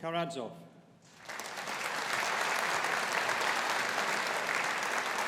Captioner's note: audience applauding